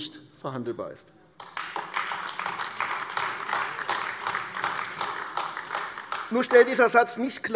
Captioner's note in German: Beifall AfD